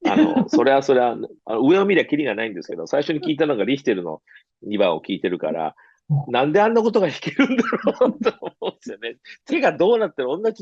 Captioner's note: laughs